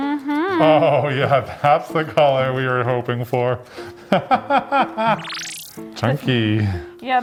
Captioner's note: laughs